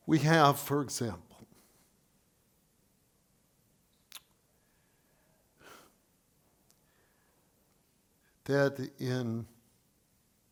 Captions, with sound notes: we have, for example, (exhales) that